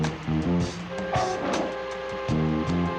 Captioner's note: thud